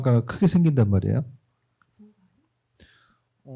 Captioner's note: none